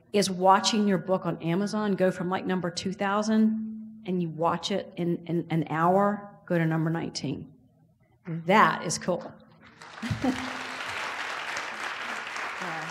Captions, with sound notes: is watching your book on Amazon go from like number 2000 and you watch it in an hour go to number 19, that is cool. (laughs) (audience applauds)